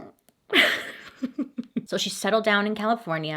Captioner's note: laughs